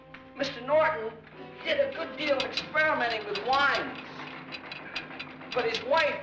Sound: vat door rattles open

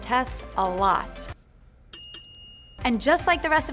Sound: bell dings

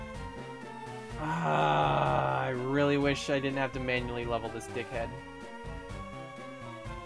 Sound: groaning

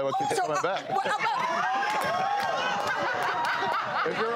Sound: laughing

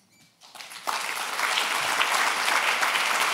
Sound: applause

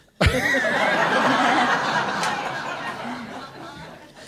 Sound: laughter

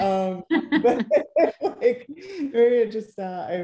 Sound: laughs

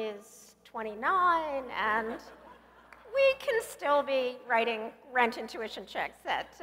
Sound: laugh

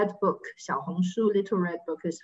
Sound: speaking in foreign language

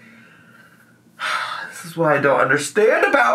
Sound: sighs

